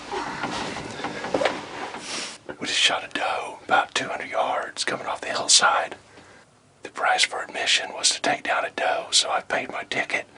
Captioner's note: whispering